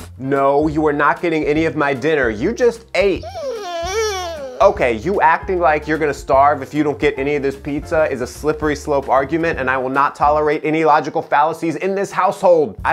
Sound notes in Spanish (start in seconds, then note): 3.2 gemido del perro